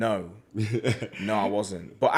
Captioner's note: laughs